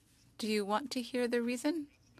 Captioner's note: speaking French